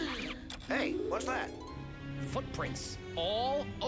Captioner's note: gasps